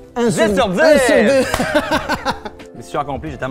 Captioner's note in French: rires